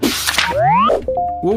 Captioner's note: electronic beeping